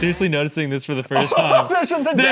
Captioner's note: laughs